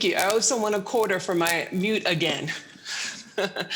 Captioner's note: chuckles